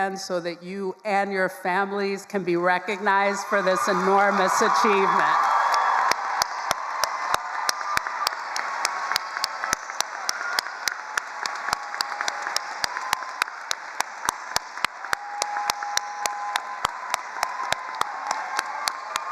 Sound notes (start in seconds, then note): 5.6 all applauding and cheering